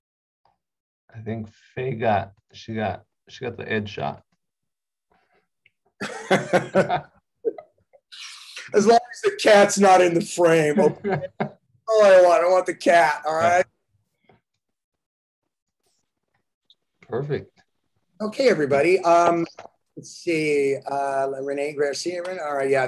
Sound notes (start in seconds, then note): 6.0 laughter